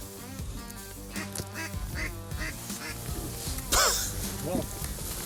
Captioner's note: light music; duck quacking